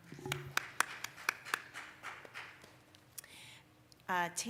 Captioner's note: applause